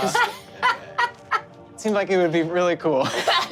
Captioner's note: laughs